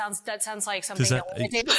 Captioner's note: laugh